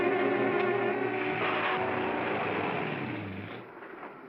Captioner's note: suspenseful music; car accelerates away; suspenseful music